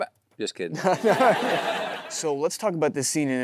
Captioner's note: Timothée & audience laughing